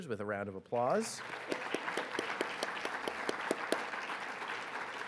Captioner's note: audience clapping